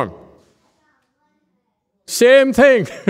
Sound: laughs, raises hand and lowers hand halfway

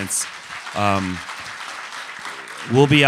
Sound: applause

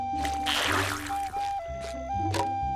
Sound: whistling

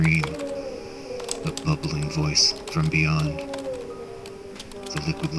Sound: deep breath through nose

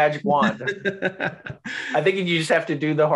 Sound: laughs

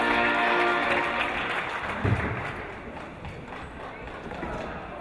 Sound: audience applauding

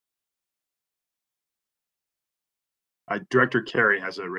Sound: A pause

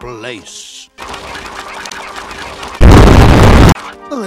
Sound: flapping noises

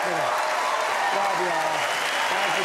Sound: audience applauding

